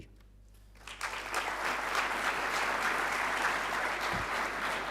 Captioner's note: audience applauding